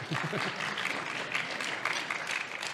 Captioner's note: audience applauding